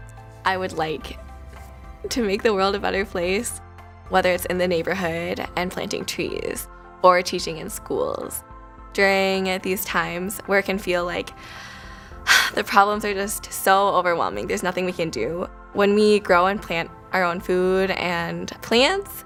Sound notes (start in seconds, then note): 11.5 sigh